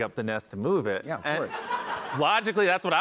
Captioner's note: laughter